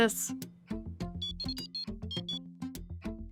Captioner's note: phone ringing